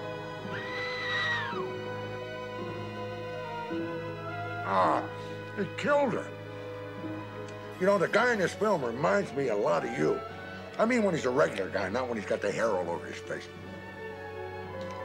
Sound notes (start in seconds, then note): 7.9 spooky music; 9.6 wolves howling